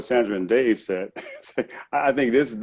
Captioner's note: chuckles